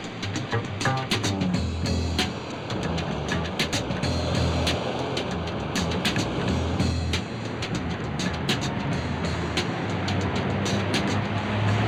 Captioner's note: jazz beat; city street sounds; jazz beat